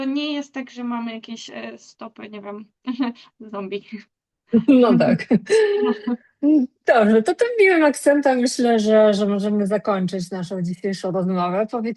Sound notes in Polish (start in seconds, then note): 4.5 śmiech